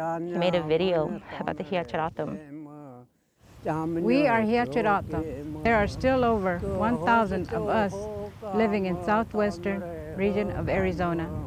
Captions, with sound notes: He made a video about the Hia-Ced O'odham. (chanting continues) - We are Hia-Ced O'odham. There are still over 1,000 of us living in Southwestern region of Arizona